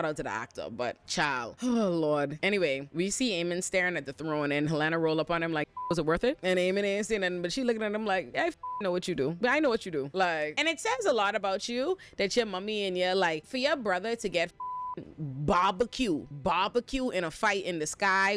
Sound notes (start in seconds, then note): 8.5 beep